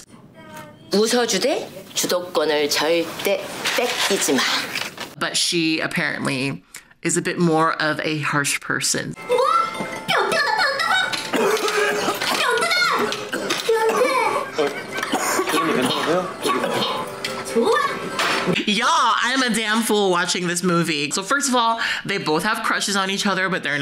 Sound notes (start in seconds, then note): 0.3 speaking Korean; 9.7 speaking Korean; 10.1 coughs; 15.3 speaking Korean